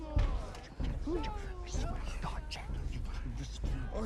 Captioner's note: whispering